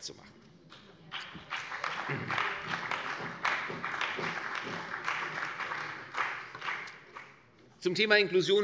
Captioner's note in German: Beifall bei der CDU und dem BÜNDNIS 90/DIE GRÜNEN